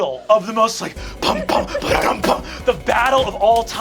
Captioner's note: imitating drums; intense music